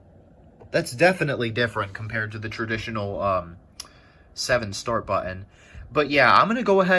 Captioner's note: tch